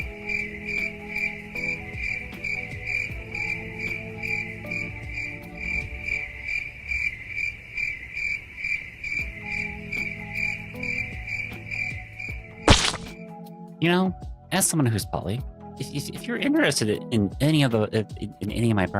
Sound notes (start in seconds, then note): 2.7 crickets chirping; 12.7 squish